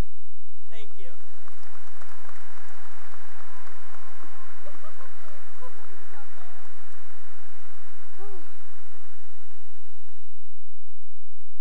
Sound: cheering and applause

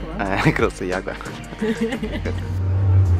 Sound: laughter

